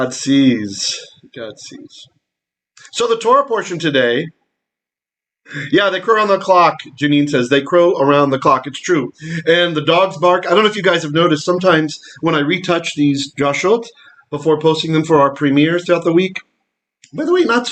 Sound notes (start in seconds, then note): 13.6 Hebrew